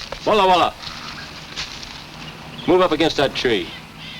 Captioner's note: speaks in foreign language